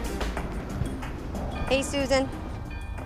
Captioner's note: bells chime